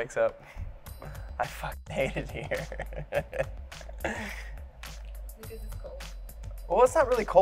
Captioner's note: laughs